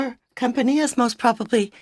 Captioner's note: speaking French